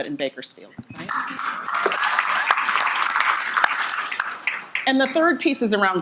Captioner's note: audience applauding